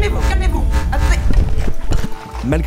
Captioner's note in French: bruits d'interférences; bruit de chute